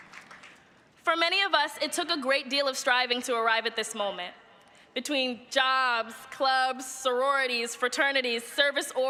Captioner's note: cheers and applause